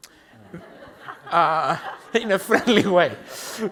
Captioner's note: everyone laughs